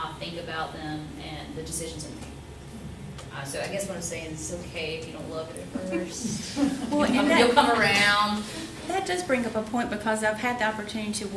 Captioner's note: laughter